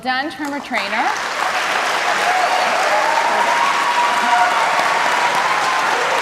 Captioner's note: cheers and applause